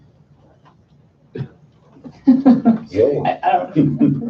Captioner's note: laughing